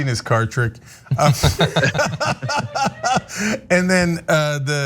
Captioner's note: laugh